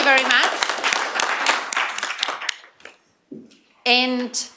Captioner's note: applause